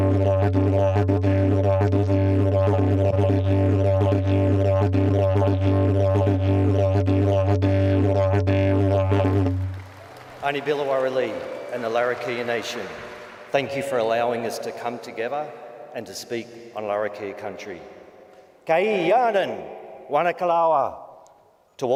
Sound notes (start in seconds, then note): 9.4 audience applauds; 18.8 speaks native language